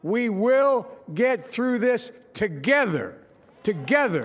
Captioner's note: applause